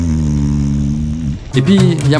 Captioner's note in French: ronflement